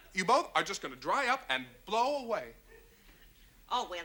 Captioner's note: none